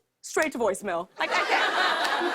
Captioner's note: laughter